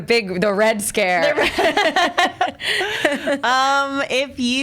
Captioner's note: laughs